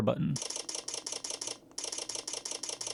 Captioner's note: camera shutter clicking